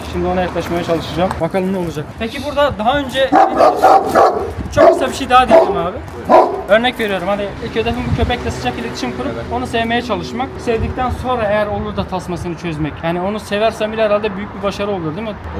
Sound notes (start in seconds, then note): 3.3 barking sounds